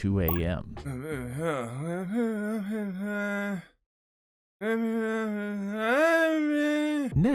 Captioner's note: hums “ ”